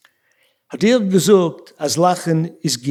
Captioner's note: speaking yiddish